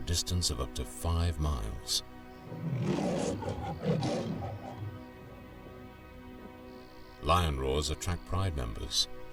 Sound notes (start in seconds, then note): 2.4 lion roaring